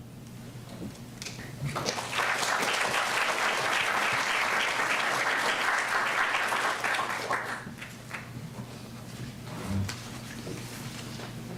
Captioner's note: applause